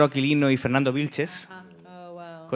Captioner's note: speaking in Spanish